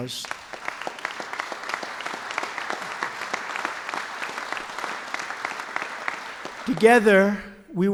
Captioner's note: applause